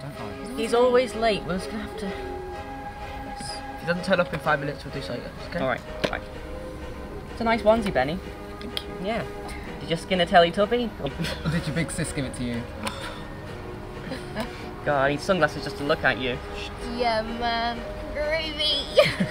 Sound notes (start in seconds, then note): 14.0 laughing